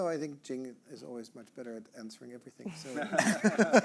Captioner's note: all laughing